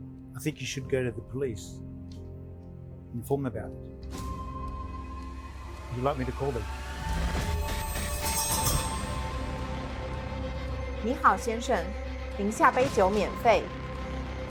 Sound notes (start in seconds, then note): 7.3 suspenseful music; 12.0 Mandarin language; 13.8 Mandarin language